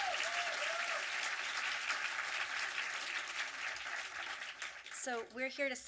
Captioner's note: audience applause and cheering; audience applause